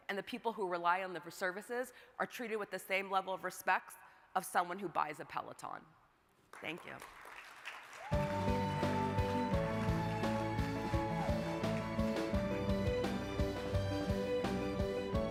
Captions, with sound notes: and the people who rely on the services are treated with the same level of respects of someone who buys a Peloton. Thank you. (crowd applauding) (bright music)